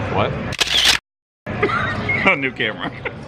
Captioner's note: shutter clicks; laughing